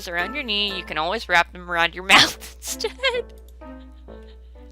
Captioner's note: laughing